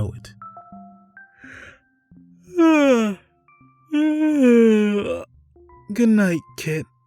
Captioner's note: yawning